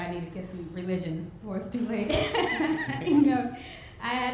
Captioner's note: laughs